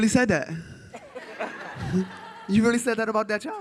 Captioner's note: audience laughs